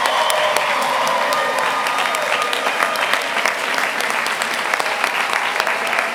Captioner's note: applause